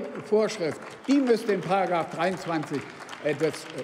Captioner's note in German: Beifall beim BÜNDNIS 90/DIE GRÜNEN